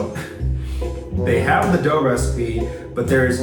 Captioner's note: laughing